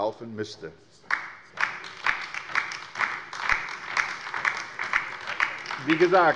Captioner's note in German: Beifall bei der LINKEN